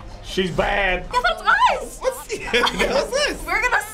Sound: laughs

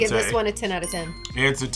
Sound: bell chimes

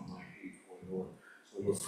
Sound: speaks faintly

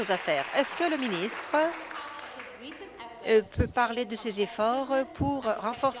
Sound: applause

